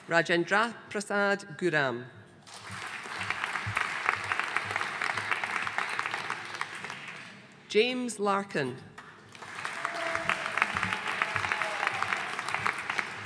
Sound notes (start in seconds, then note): 2.5 audience applauding; 9.0 audience applauding